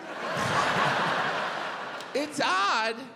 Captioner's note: audience laughs